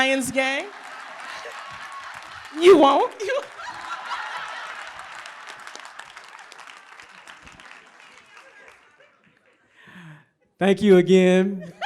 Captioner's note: applause; laughter; applause; laughter